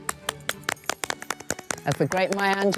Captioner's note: women clapping